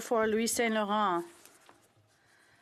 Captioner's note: speaking French